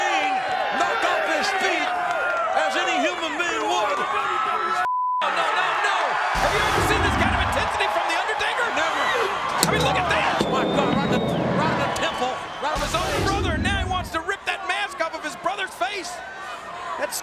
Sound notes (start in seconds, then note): 4.9 beep